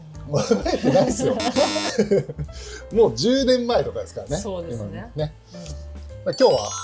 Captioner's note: laughs